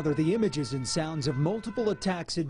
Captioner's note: siren blaring